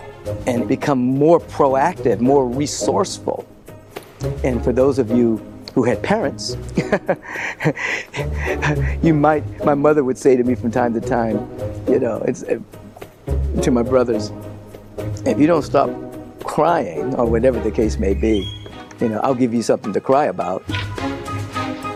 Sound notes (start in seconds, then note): 6.7 chuckling